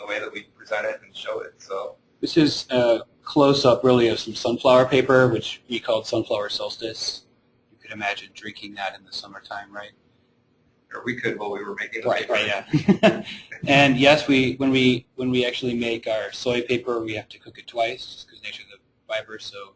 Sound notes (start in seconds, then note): 12.8 chuckling